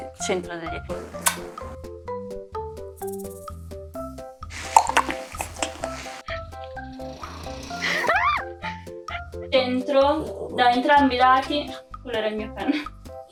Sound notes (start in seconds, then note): 7.7 aaaah